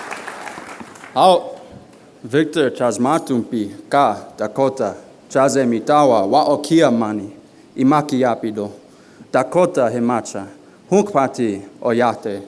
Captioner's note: non-english speech